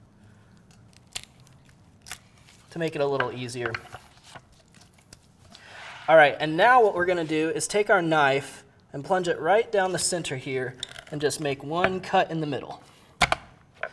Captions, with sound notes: (cracking) to make it a little easier. All right, and now what we're gonna do is take our knife and plunge it right down the center here and just make one cut in the middle